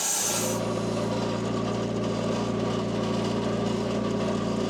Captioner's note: engine humming